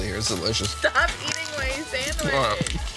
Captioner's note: Crunch